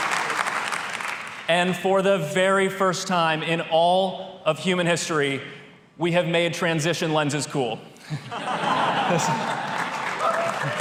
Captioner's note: applause